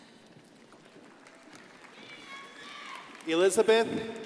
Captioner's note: crowd applauding